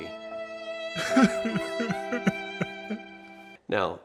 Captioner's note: cries